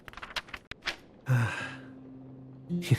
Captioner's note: sigh